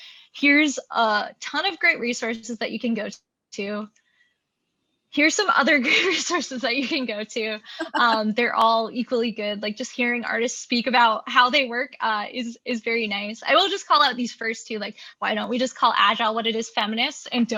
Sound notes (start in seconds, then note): 7.8 both laughing